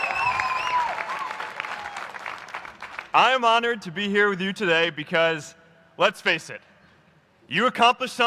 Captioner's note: applause